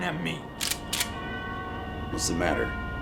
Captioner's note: gun clicking